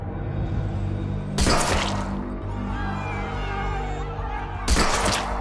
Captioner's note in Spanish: Disparos